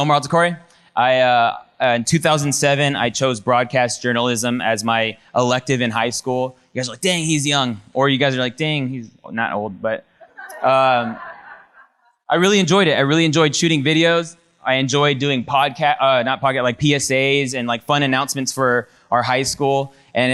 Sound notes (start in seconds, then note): 10.2 audience laughs